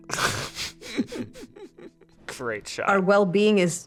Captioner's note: serene music; both laughing